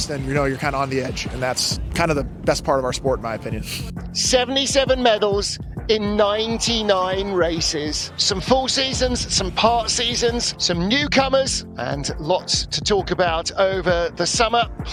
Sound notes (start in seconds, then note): 3.8 laughs; 5.9 crowd shouts and cheers; 8.7 warm synth music